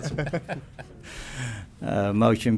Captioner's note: laughter